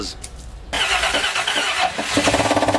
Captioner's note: trying to start car; bad engine knocking noise